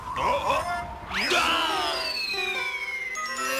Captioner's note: scream